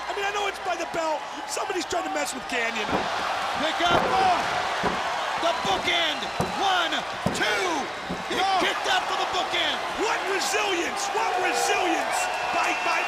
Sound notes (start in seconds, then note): 4.5 crowd cheering; 9.8 crowd cheering